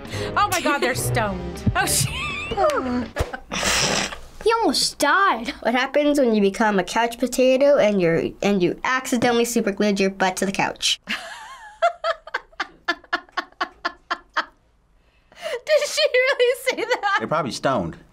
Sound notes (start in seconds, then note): 2.0 laughs; 3.6 snorts; 11.8 laughs